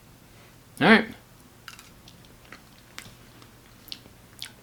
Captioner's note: munches